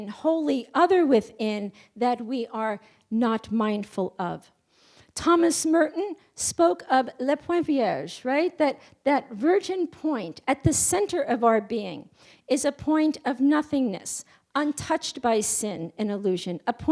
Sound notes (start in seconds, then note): none